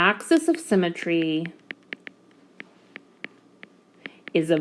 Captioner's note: typing Sound